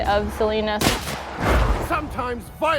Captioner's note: gunshot; woosh